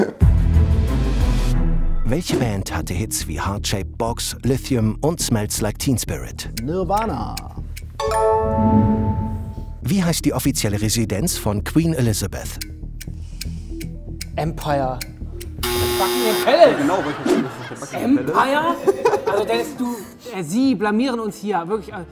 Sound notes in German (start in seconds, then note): 0.1 Bedeutungsvolle Musik; 7.8 Klingeln; 16.4 Lachen